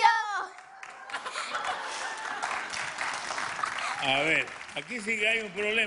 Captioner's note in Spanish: aplausos